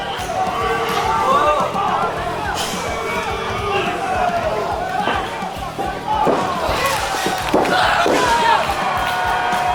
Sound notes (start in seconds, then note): 1.0 crowd cheers on; 6.8 loud slap; 7.2 slam against mat; 8.5 Maddy lets out a painful scream